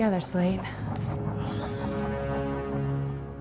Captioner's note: exhales sharply; groans